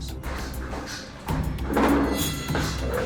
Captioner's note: furniture clattering